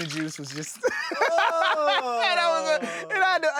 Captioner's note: laughing